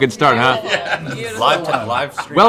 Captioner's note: laughs